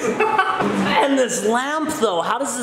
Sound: laughing

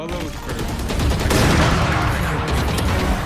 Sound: guns firing

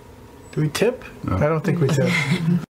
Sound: laughs softly

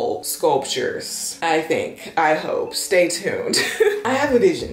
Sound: chuckles

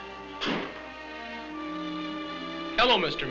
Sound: door thudding

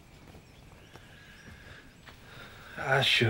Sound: sighs

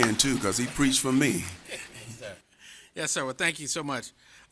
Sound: applause

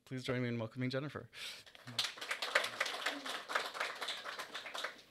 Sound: applause

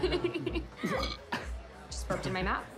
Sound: belches

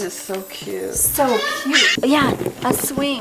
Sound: bird squawking loudly

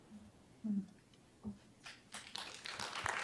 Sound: applause

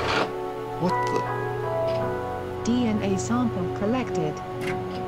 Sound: friendly Chime

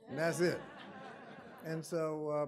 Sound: audience laughing

